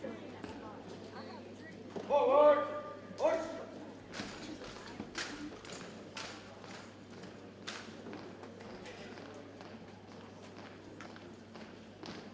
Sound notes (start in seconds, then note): 4.8 rhythmic stomping